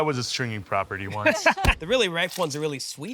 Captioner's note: laughing